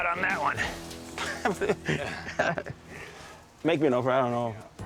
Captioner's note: laughs